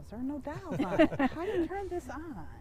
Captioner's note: laughs